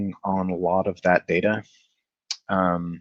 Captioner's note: none